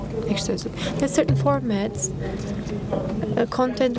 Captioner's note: speaking foreign language